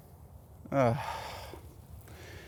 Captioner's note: sighs